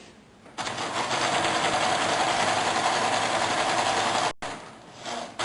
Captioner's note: sewing machine stitching